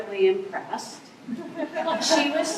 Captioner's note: laughter